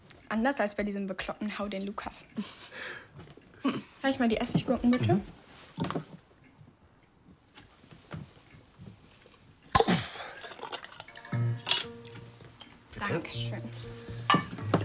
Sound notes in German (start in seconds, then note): 9.6 Ploppen, Stöhnen